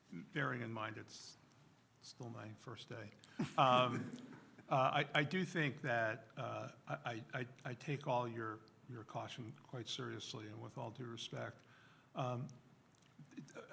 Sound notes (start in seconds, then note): 3.4 laughter